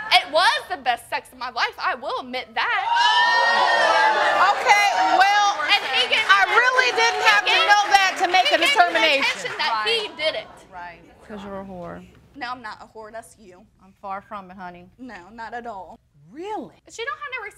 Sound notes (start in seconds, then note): 3.1 all exclaiming